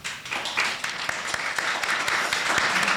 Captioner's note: applause